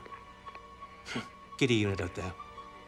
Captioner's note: scoffs